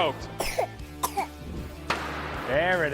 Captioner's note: coughing